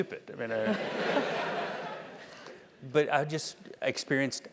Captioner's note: laugh